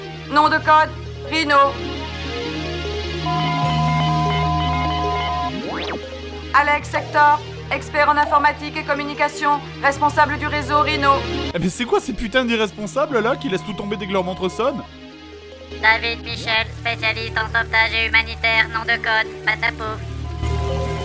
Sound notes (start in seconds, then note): 15.6 voiceover